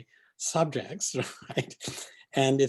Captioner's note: laughing